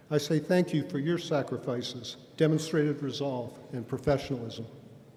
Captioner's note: none